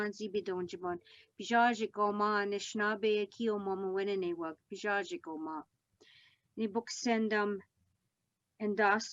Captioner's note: speaking Algonquin